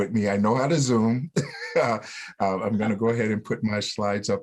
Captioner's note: laughter